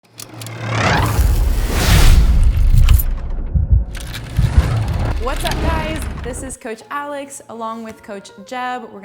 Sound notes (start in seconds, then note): 0.3 loud whooshing